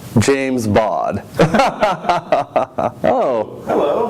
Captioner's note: both laugh